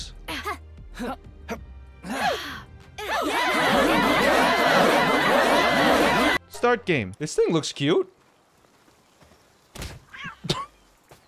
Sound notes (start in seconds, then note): 0.2 Link-esque HYAAHs; 3.0 screaming; 9.6 meowing; 9.6 punching